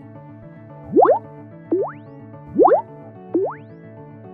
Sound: upbeat music; computer beeps

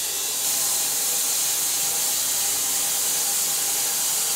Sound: saw buzzes

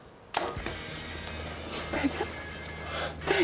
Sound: bow string thudding

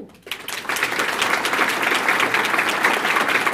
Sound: applause

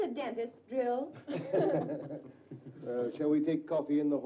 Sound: group chuckles

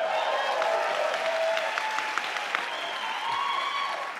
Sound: crowd cheers

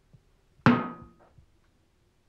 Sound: metallic clang

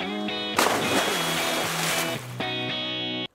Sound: upbeat music; splash

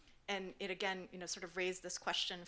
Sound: none

